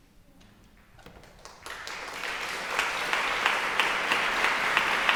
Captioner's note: audience applauding